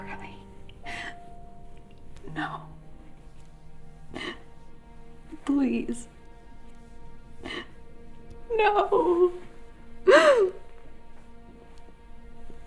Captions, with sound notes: - Oh no, Curley, no. Please. No! (cries)